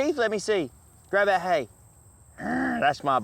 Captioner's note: grunting